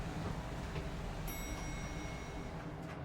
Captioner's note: elevator pings